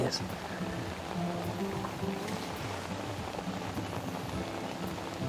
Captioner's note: rain pattering